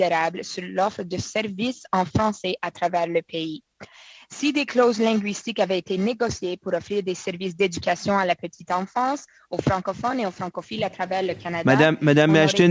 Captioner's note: speaking French